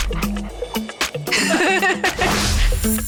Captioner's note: laughing